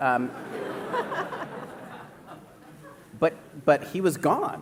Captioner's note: laughter